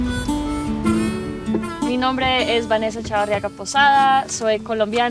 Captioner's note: in Spanish